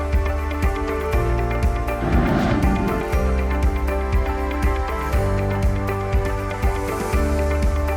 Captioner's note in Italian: Applauso